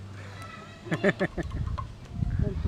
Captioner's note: laughing